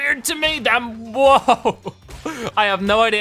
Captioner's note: laughing